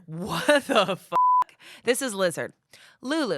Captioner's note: beep